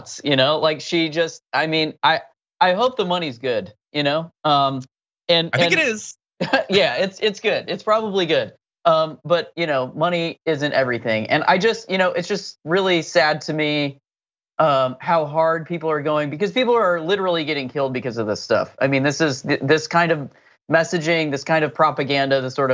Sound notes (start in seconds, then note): 5.5 laugh